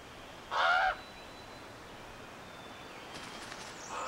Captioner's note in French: le corbeau croasse